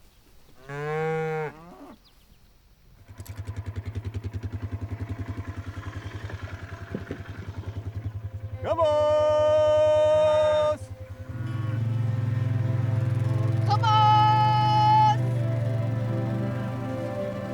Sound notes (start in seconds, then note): 0.6 cow mooing; 3.0 motor running